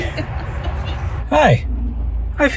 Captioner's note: everyone laughing